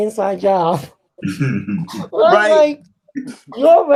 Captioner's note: chuckles